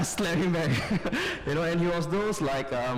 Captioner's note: laughter